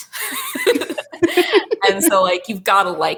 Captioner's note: both laughing